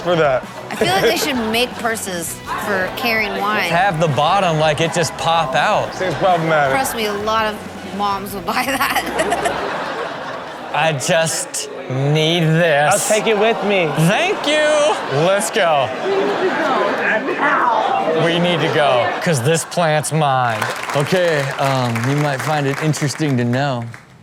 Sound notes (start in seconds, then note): 8.8 laughter